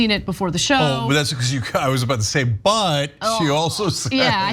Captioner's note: laugh